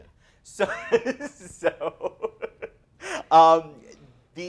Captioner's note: laughs